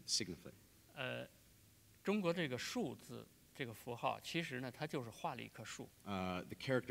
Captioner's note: speaking in Chinese